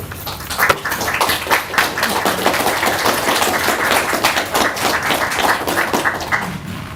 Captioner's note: clapping